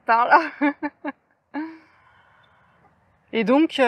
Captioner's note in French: rires